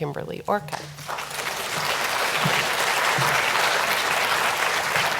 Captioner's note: audience applauds